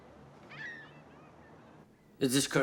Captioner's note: birds squawking